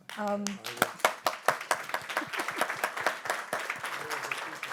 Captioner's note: audience applauding